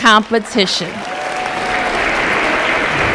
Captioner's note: applause